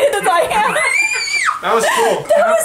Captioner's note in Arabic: طفل يهتف